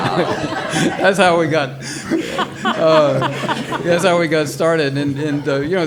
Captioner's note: all laughing